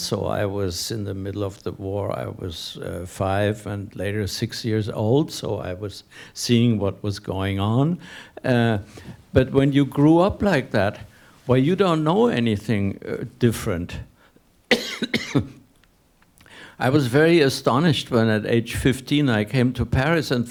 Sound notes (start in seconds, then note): 14.7 coughing